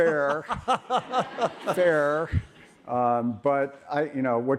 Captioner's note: audience laughs